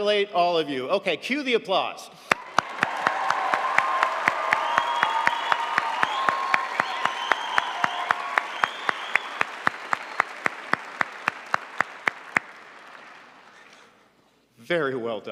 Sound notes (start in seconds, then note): 2.4 crowd applauds